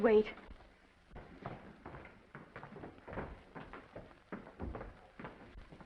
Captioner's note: footsteps approaching